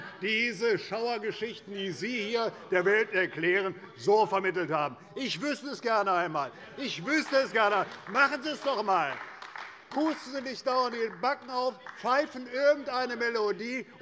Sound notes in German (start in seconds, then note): 6.8 Beifall bei Abgeordneten der CDU